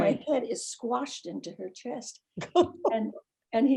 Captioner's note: laughing